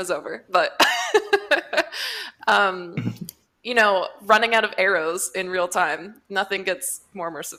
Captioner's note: laughs